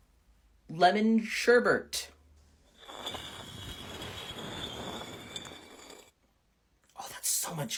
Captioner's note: stones moving